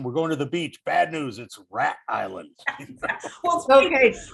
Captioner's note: laughs